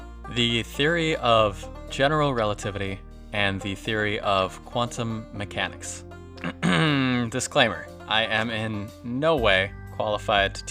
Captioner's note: throat clear - Disclaimer